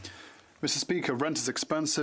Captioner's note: speaking French